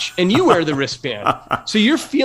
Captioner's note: laugh